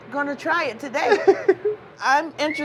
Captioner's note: laughs